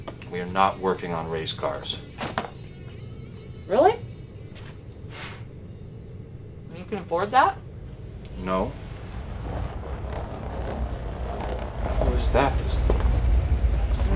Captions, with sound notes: We are not working on race cars. - Really? You can afford that? - No. (vehicle approaching) - Who's that this late?